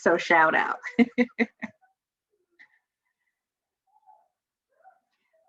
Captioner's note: laughter continues